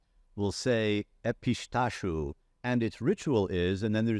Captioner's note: speaking in foreign language